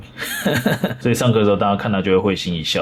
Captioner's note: laughs